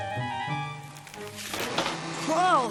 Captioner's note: creaking